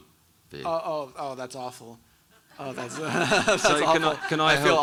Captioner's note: chuckles; audience laughing